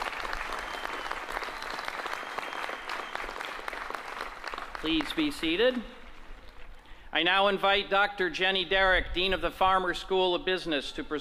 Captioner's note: applause